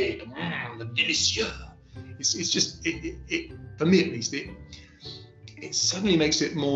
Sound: speaking french

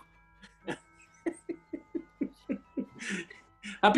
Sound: giggling

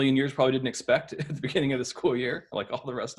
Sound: laughs

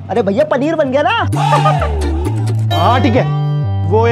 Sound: laughing

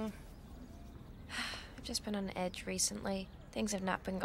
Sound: sighs

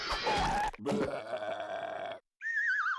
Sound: burping

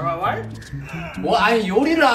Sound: pooing

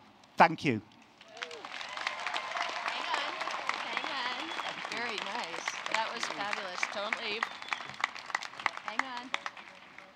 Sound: applause

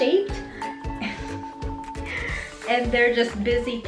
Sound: laughing

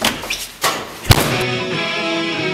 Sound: traditional Swedish doorslamming

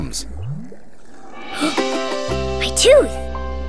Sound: gasps

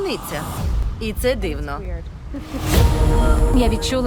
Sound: chuckles

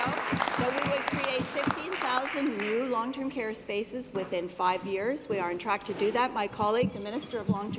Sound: applause

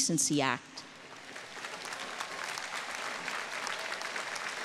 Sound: audience applauding

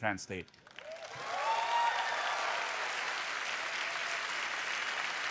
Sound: applause

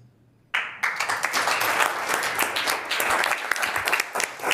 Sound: audience applauding

